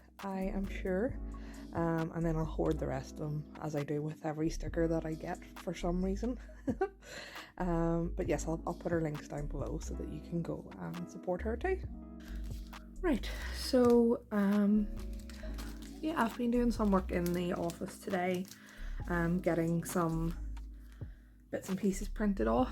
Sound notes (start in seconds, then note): 7.0 laughs